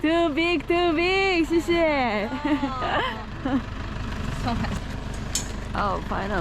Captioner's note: laughing